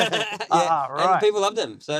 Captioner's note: laughing